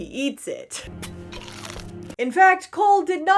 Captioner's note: big crunch